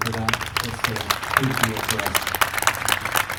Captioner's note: applause